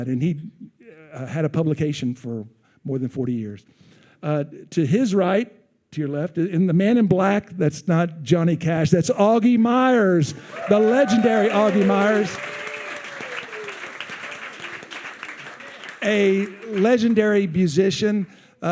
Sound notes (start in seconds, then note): 12.4 attendees cheering